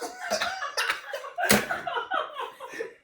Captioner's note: laughing